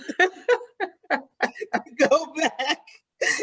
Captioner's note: participants laughing